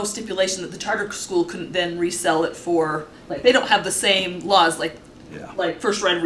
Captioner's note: clears throat